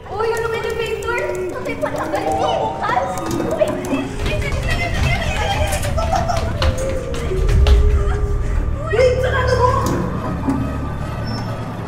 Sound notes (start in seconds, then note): 2.8 elevator opens; 2.8 kid voice singing; 4.3 ALL THREE shouts "Hurry!"; 9.7 elevator closes